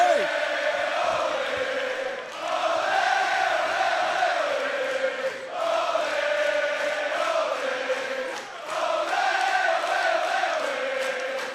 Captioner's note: crowd cheering